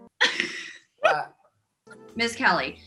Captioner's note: laughing